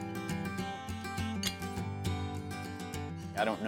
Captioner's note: mellow music; horseshoe clanking